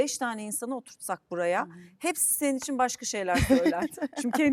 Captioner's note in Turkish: kahkaha